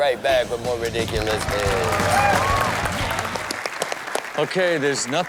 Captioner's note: crowd applaud and cheer